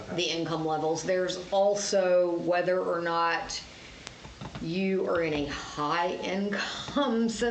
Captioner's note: laughs